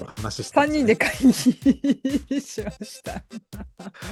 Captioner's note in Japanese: 笑い